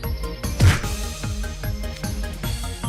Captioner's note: punch punch